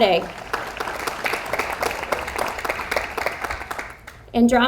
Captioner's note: audience applauds